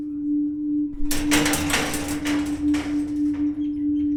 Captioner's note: door knocking